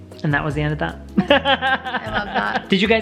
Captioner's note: laughing